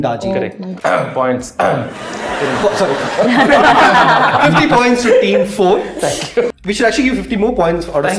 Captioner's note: points ahem